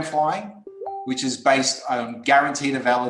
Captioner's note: beep